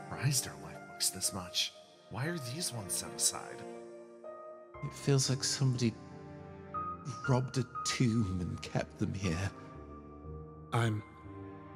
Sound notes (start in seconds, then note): none